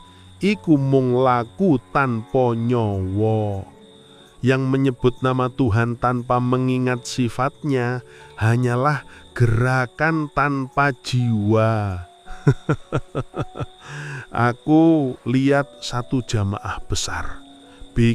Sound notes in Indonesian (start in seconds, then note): 12.3 tertawa